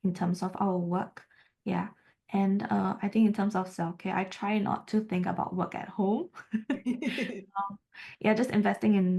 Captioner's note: haha